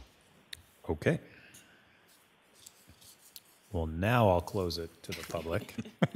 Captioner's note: laughs